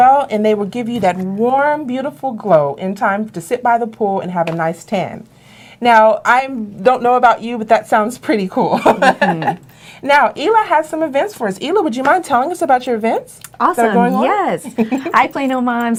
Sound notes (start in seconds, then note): 8.6 laughing; 14.3 laughing